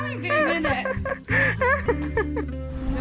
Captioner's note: laughs